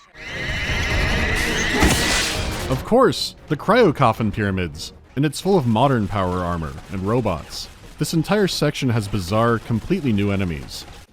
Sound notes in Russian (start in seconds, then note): 0.0 визгливая сирена дроида; 1.7 хренак